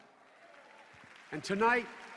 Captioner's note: applause